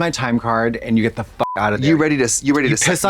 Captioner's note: beep